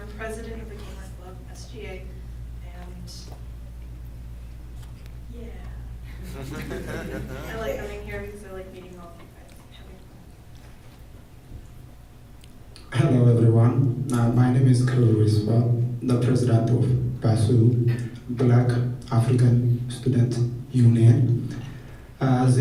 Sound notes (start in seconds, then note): 6.1 laughing